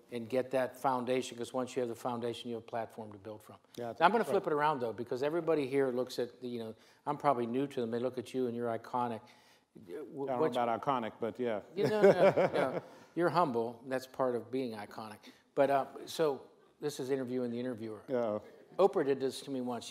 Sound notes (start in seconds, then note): 11.8 laughs